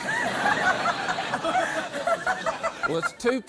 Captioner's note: laughter